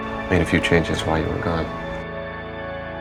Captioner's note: voiceover